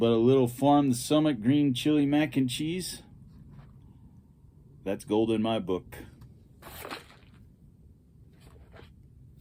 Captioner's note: flame wooshing